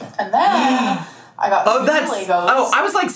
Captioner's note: gasps